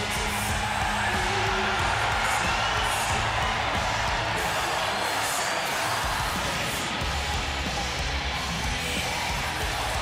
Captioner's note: cheers and applause